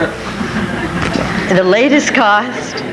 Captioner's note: audience laughs